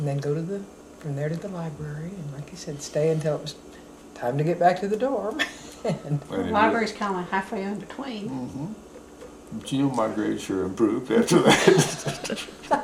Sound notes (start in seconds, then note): 7.0 laughter